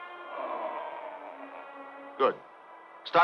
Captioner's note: man groans